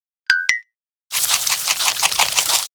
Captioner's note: chewing